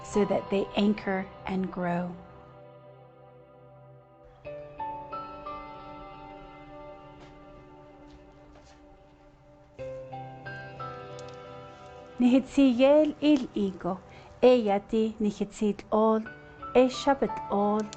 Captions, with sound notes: so that they anchor and grow. (gentle music) (presenter speaking in Navajo language)